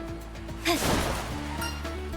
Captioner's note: grunt